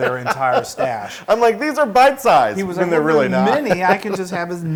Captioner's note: laugh